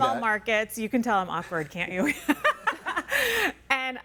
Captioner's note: laughing